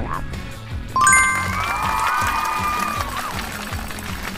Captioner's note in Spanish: gritos y aplausos